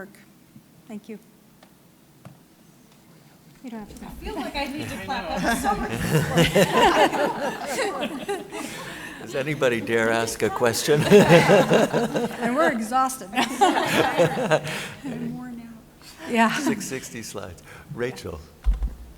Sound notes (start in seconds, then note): 6.8 laughter; 11.3 laughter